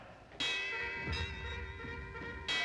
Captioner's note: bells tolling